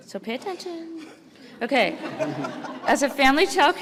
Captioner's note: audience laughs